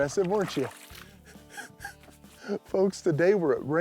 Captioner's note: chuckles